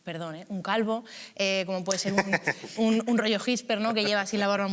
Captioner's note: laughs